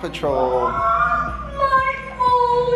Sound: child exclaiming loudly

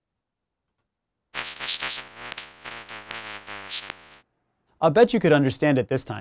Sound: electronic noises

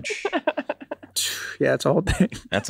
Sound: Megan laughs; giggles

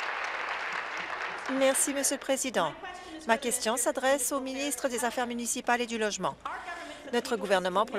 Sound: applause

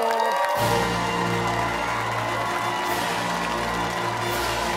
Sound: cheers and applause

